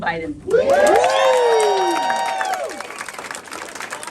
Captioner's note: cheering